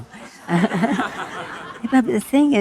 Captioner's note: audience laughing